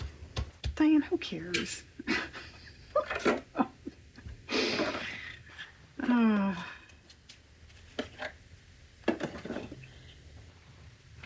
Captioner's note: laughs